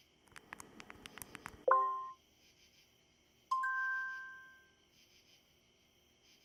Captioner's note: text clicking; graphics chiming